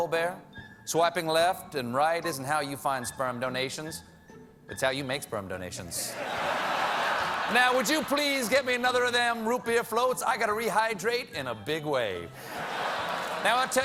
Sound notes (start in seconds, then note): 6.0 laughter